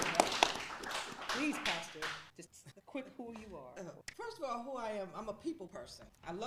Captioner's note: applause